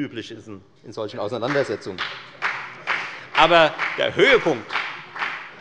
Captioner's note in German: Beifall bei der FDP